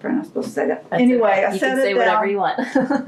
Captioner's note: laughs